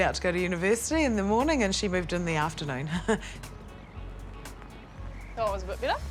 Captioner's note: chuckles